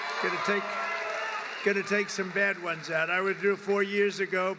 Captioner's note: applause